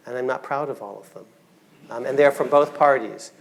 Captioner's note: audience laughing